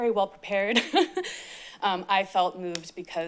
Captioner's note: chuckles